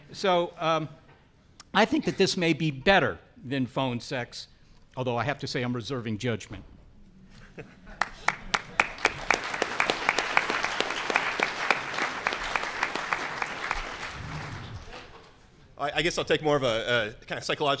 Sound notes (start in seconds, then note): 7.9 audience applauding